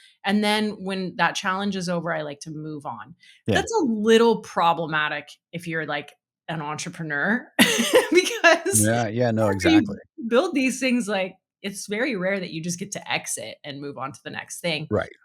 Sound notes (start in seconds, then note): 7.5 laughing